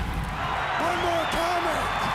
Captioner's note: crowd cheering